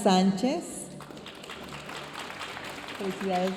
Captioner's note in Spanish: aplausos de la audiencia